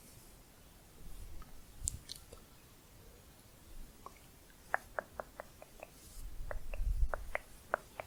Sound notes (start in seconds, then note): 0.9 blowing; 4.7 tongue clicking